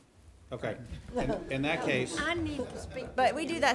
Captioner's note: everyone chuckling